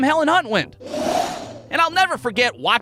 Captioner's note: whoosh!